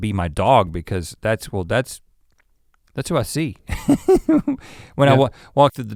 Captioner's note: chuckles